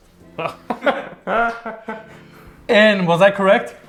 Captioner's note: both chuckling